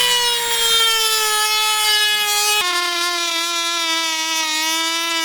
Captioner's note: sawing sounds